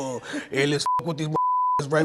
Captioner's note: beep